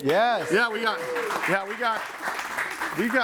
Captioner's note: audience applauds